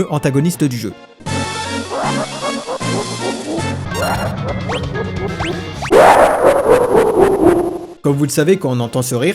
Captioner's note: kefkastruelaugh.wav